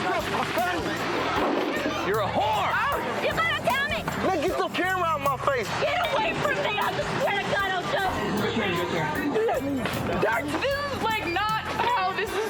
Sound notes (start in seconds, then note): 5.8 hysterical; 9.2 spit